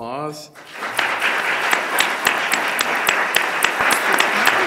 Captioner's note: audience applause